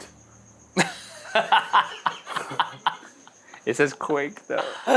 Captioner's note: all laughing